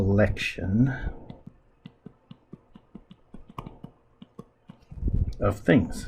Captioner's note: writing Sounds